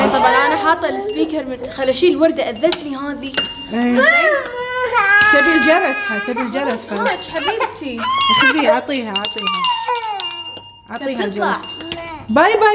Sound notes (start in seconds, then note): 3.8 crying mama